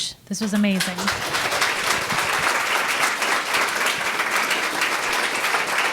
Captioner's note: audience applauding